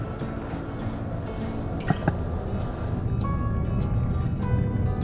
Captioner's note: chuckles